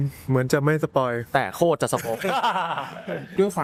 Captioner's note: laughs